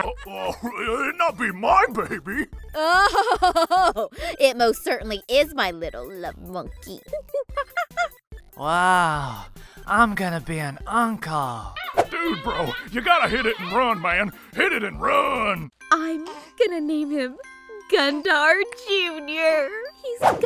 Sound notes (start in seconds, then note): 2.5 laughs; 6.7 monkey sounds